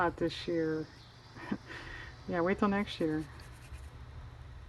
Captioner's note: laughs